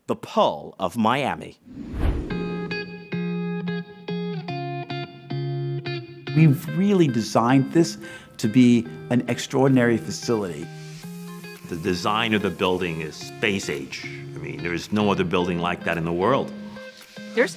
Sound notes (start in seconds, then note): 1.6 screen whooshes; 1.9 subdued music